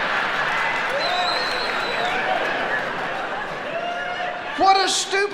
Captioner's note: audience cheering